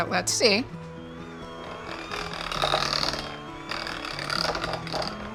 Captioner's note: mixer whirs